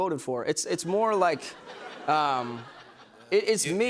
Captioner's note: laughter